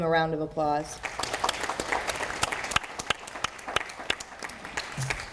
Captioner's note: audience applauding